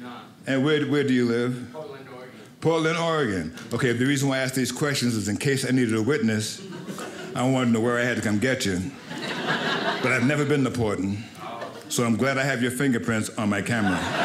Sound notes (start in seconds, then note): 9.0 audience laughing